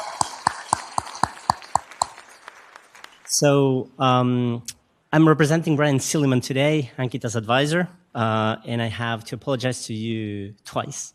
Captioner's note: applause